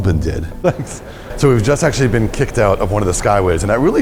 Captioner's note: chuckle